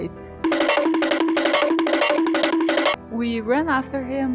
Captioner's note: cartoon running sound